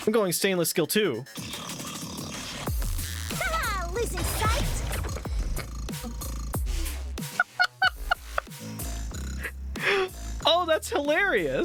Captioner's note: barely contained laughter